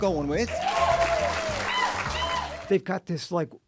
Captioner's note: applause